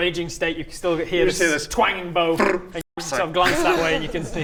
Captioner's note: twang!; pfffftt